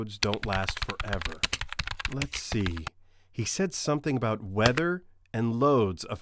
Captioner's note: typing